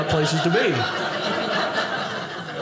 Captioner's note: audience laughing